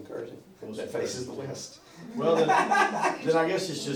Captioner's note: laughter